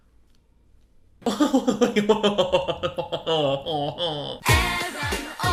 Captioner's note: laughing